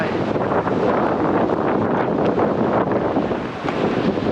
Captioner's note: wind rushing